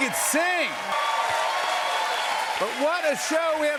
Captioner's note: cheers and applause